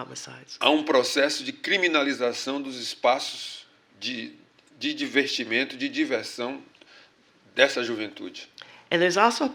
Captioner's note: speaking portuguese